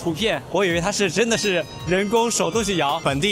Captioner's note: the bell